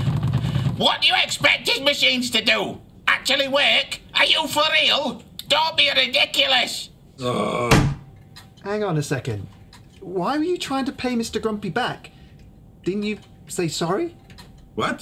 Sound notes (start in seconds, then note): 7.2 Igor groaning; 7.7 head thudding